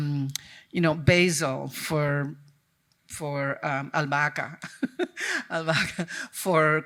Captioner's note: chuckles